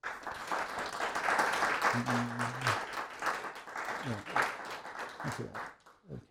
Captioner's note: crowd clapping